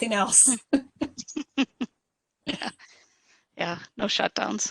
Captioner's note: laughs